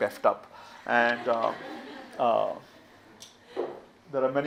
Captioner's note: audience laughs